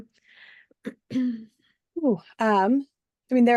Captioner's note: cough